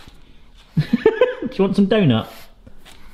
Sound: laughs

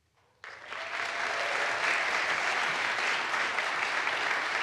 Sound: audience applauds

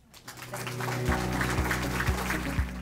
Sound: applause; lively music

